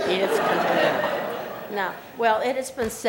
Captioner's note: laughter